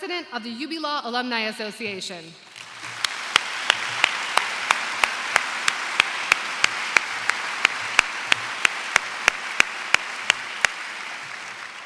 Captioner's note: applause